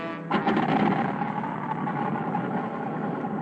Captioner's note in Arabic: بدء تشغيل المحرك